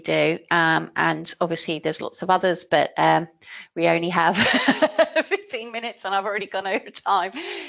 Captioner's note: laughing